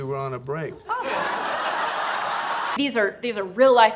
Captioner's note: audience laughing